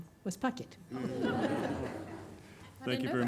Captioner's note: everyone laughs